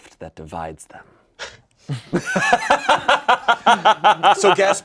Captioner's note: everyone laughs